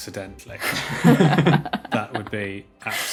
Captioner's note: guests chuckling